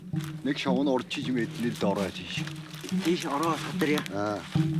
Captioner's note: foreign spoken audio